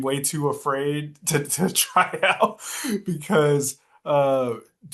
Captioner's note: laughs